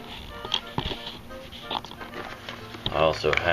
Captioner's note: shuffling noises